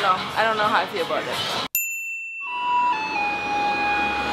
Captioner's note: a bell rings